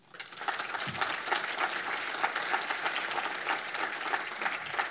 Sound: audience applauds

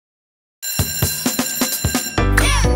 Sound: bell ringing

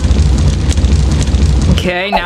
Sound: fire crackling

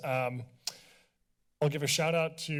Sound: clicks tongue

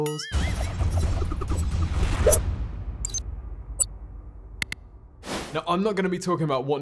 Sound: dramatic music; buzzing

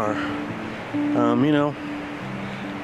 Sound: wind whooshing

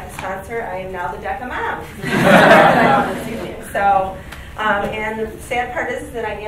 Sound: group laughing

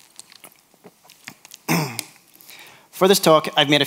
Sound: clears throat

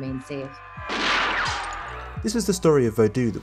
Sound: gunshot rings

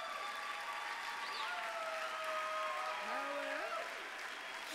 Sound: applause

